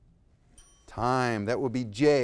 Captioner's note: bell ringing